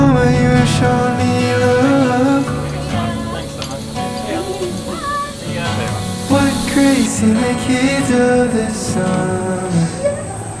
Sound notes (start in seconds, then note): 3.2 all conversing